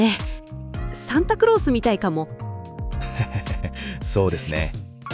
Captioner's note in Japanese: わら